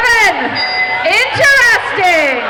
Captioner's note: dinging